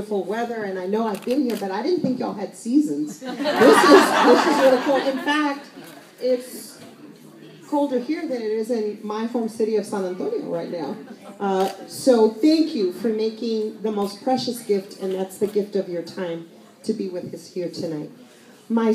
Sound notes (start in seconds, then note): 3.2 laughter